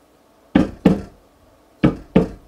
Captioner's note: banging